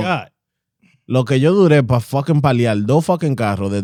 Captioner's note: speaking In Foreign Language